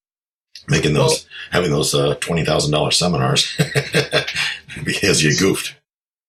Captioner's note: laughs